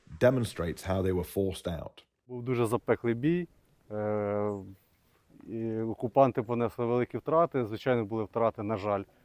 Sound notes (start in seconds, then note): 2.3 speaking in foreign language